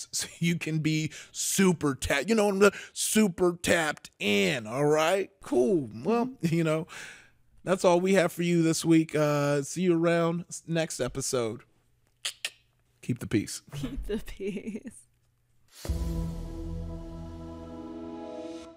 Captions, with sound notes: So you can be super tapped in. All right. Cool. Well, that's all we have for you this week. See you around next episode. (clicks tongue) Keep the peace. - Keep the peace. (gentle melody)